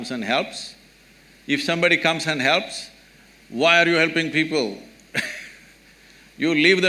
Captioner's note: laughs